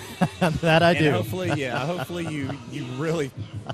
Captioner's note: laughter